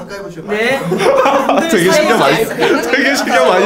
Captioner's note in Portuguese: risada